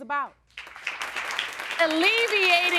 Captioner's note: audience applauding